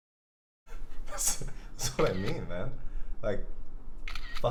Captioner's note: laughing